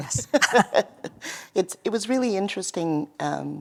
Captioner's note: laughter